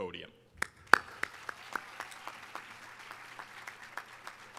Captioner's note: audience applauding